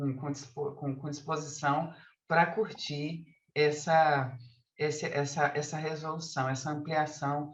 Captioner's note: continues speaking in Portuguese